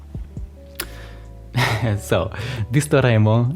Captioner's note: chuckle